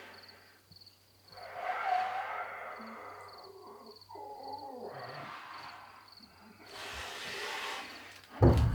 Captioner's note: muffled breathing